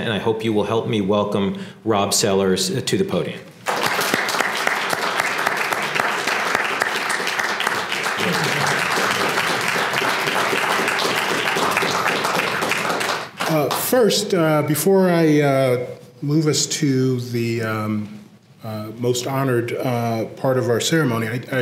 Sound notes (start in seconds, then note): 3.6 applause